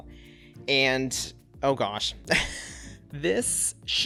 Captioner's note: laughs